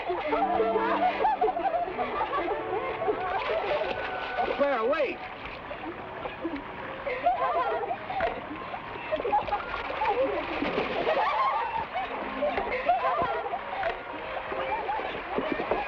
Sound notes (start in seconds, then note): 3.5 water splashes; 7.0 women laugh; 10.7 water splashes; 10.9 women laugh